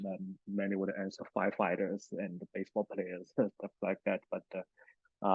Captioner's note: laughs